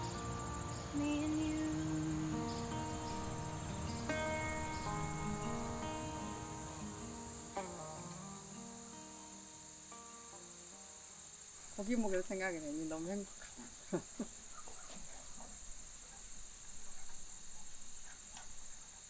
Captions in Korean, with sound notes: -하늘 너무 너무 예쁘다 -(웃음) 고기 먹을 생각을 하니 너무 행복하다